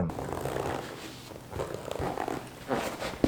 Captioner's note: squeaking